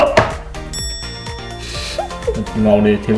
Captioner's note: laughs